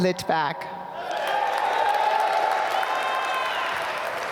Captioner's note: applause